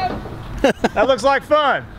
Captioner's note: laughs loudly